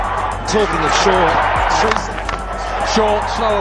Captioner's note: crowd cheering